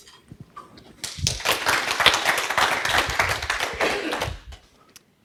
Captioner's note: audience applauds